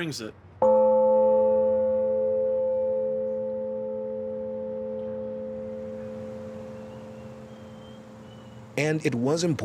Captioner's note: loud deep ringing